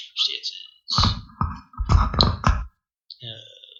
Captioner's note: turbulence